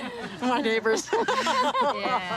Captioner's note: laughter